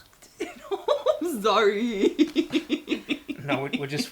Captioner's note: chuckles